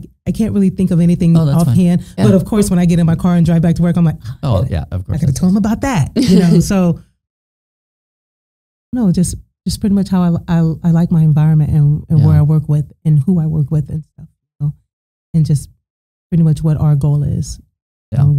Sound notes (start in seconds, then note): 6.2 laughing